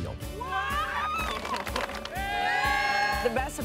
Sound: crew applauding

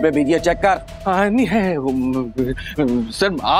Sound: fumbling

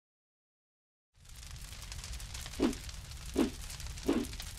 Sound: fire crackling

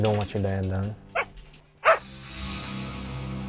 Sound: dog barks

